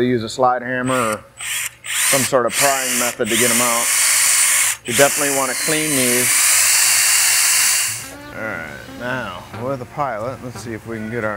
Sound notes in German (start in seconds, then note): 1.3 Werkzeug surrt; 6.4 Werkzeug surrt